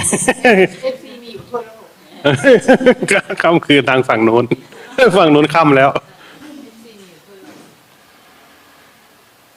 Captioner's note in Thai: เสียงหัวเราะ